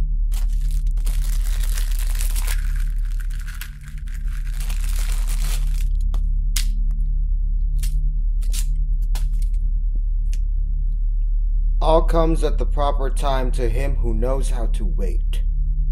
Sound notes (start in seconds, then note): 0.2 wrapper crinkling